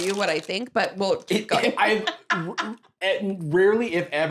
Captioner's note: laughs